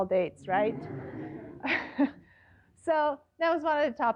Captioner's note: laughter